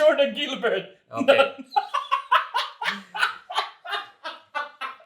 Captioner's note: laughs